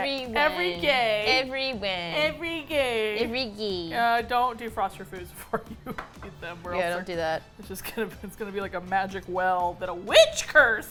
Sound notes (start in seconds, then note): 6.1 laughs